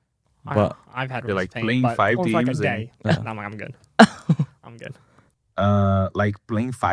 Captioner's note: laughs